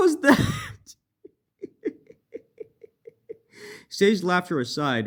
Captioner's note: fakest laughter ever